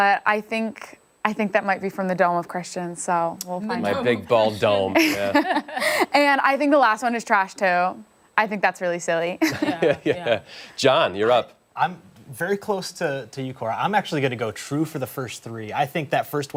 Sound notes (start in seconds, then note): 9.4 laughter